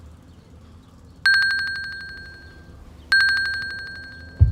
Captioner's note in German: Apple Watch ertönt